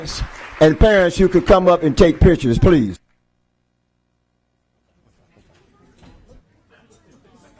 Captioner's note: applause